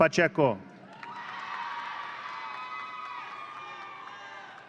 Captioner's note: audience cheering